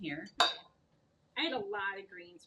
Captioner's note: dishes clattering